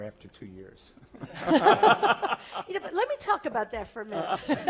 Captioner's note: laugh